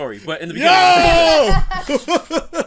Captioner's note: laughs